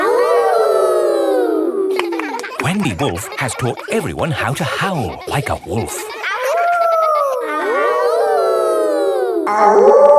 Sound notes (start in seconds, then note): 0.2 kids howling; 6.5 howling; 8.1 kids howling